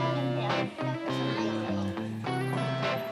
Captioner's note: children chatter; gentle music